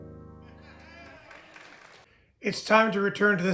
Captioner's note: audience cheering